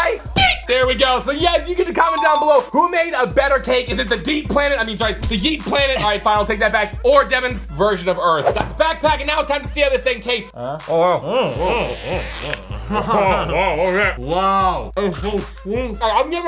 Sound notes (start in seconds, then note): 10.5 groaning